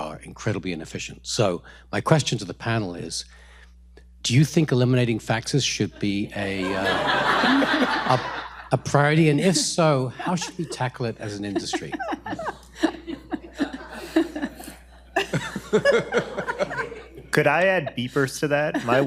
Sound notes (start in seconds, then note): 13.0 panel laughs